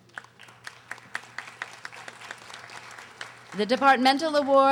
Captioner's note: audience applauding